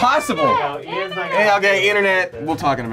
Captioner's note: overlapping chattering